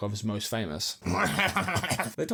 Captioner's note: gremlin noises